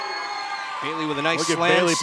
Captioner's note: cheers & applause